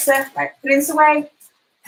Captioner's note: none